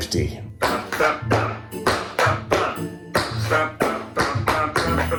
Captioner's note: humming and tapping